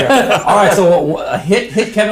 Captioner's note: both laughs